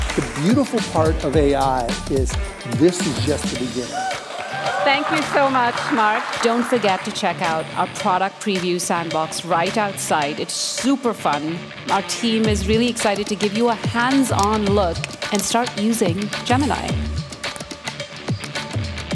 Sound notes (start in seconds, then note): 3.8 cheering